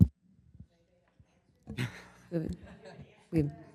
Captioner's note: laughs